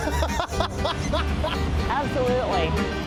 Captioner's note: laughs